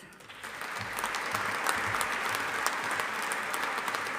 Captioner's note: audience applauding